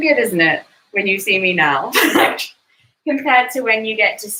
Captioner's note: laughs